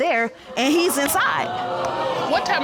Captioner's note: audience exclaims